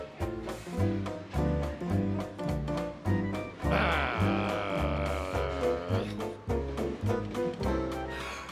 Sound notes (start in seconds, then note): 3.7 growls